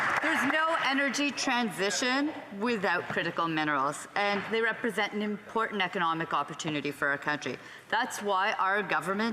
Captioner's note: some Applause